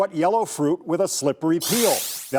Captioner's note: digital sound effect